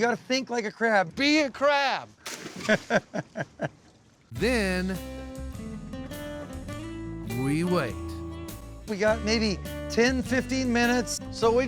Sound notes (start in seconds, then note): 2.6 laughter